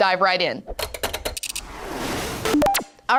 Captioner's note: text swooshes